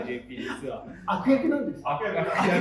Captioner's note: laughs